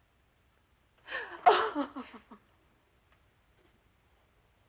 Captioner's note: crying